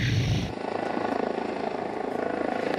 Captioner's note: helicopter whirring